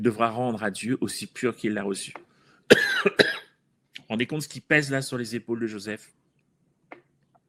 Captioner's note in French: toux